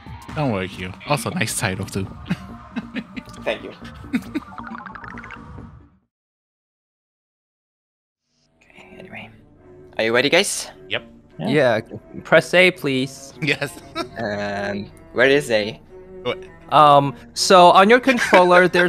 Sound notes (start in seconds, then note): 13.4 chuckles; 18.5 laughing